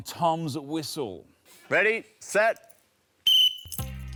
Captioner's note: whistle blows